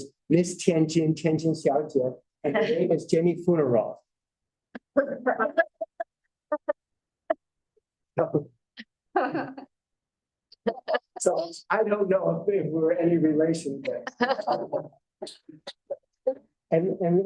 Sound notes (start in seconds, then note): 9.2 laughter; 14.0 laughter